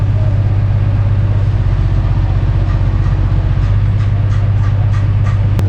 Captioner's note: truck Body swirling in Air